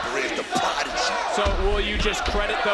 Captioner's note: audience chanting